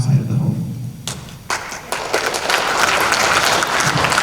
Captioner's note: applause